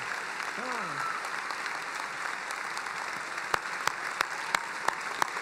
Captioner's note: applauding